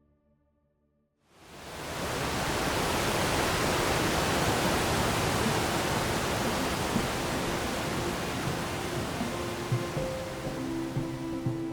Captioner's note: waterfall